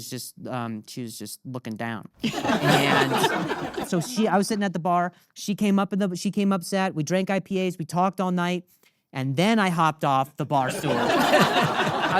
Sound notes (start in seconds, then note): 2.2 audience laughing